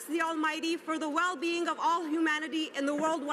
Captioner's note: speaking alternate language